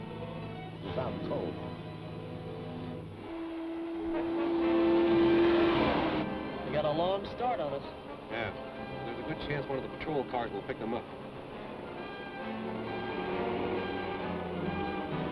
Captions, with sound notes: - He's out cold. (vehicle whooshes) - They got a long start on us. - Yeah, there's a good chance one of the patrol cars will pick them up. (dramatic music)